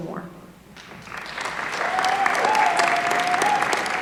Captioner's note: applause